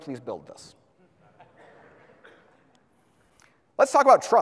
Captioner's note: audience laughs